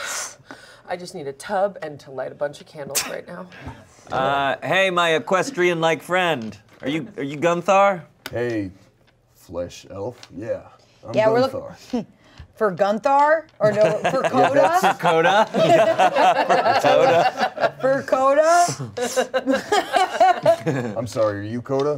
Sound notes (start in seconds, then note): 15.8 everyone laughs